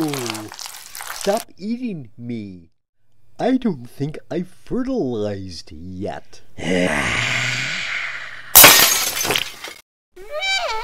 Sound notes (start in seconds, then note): 8.5 glass shatter